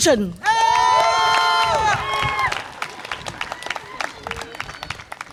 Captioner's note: audience applause and cheer